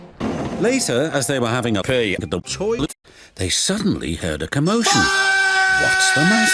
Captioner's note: fuuuuuuuuck!